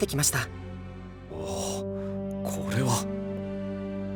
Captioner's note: gasp